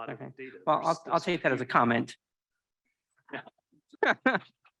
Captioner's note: laughs